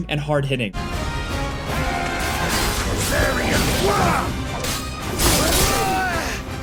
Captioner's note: intense music; swords crashing